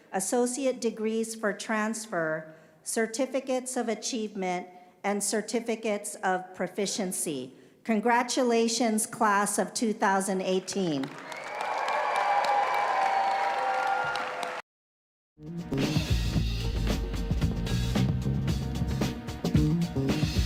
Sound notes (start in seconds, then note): 10.6 applause